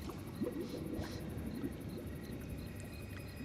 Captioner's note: faint bubbling; sniffs